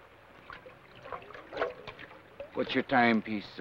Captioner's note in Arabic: رشات الماء